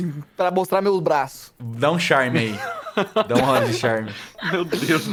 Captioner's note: laughs